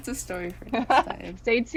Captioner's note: laughs